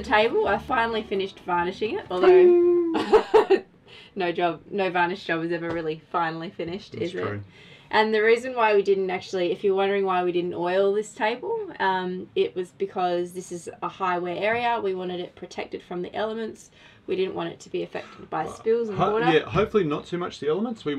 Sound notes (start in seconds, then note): 2.3 laughs